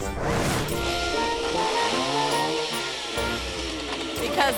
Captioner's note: graphics whooshing; playful music; chainsaw whirring